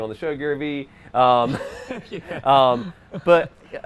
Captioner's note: laughs